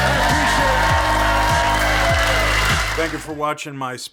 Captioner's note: audience cheers